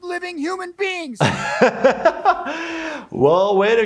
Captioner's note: laughing